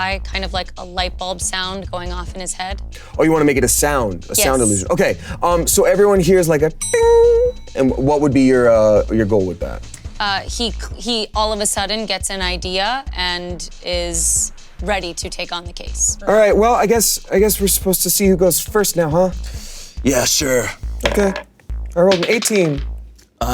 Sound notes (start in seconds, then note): 6.8 bell chiming